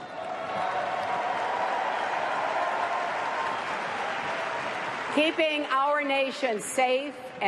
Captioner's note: cheers and applause